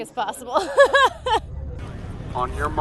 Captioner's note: laughing